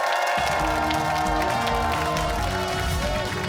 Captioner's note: cheers and applause